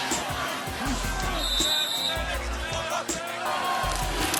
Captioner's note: whistles